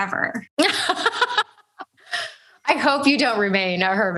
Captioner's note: laughs